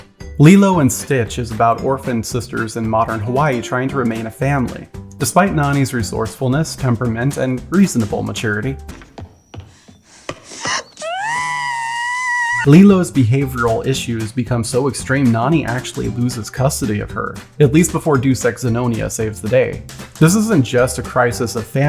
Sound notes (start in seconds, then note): 10.6 “screams”